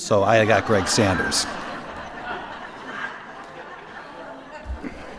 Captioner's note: laughter